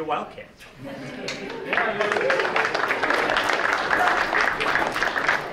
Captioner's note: laughter and applause